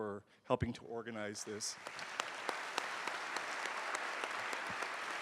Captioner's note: applause